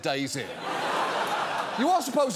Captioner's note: studio audience laughs